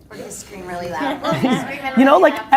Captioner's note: laughing